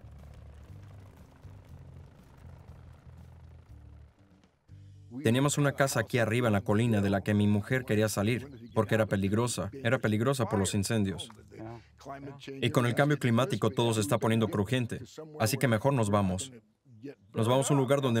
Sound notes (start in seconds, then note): 0.0 helicopter blades slapping; 3.9 helicopter engine revving